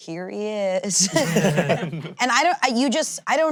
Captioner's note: all laughing